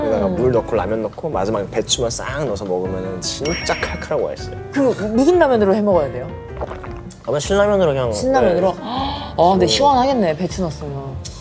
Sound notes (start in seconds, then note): 6.5 gulp